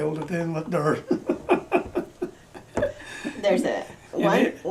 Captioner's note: laughs